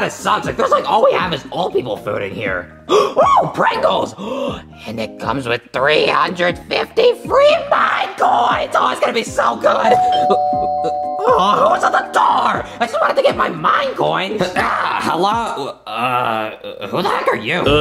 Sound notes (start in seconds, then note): 4.2 gasps; 9.9 bell dings